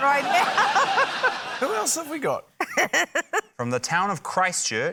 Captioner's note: laughter; urzila laughs